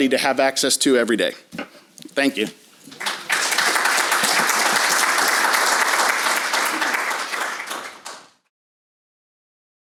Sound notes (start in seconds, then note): 2.9 audience applause